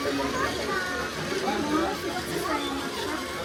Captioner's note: train whirring